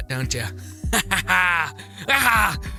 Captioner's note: laughs